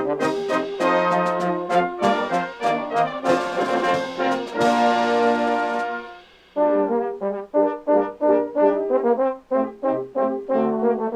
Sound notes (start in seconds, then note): none